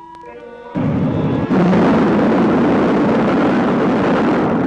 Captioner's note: rocket rumbling